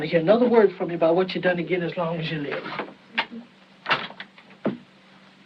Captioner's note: door Closes; sobbing